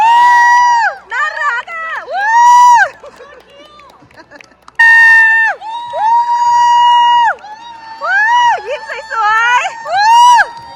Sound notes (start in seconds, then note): 4.5 applause; 5.0 scream; 10.1 applause; 10.1 scream